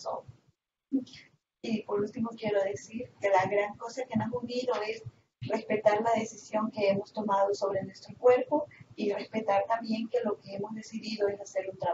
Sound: Spanish

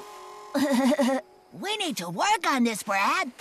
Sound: laughs Nervously

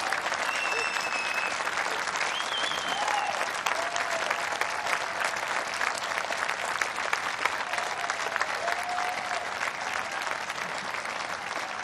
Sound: applause

